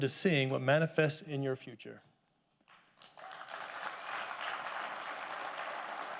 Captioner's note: audience applauding